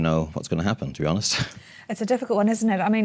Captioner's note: laugh